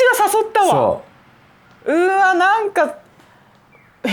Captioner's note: laughs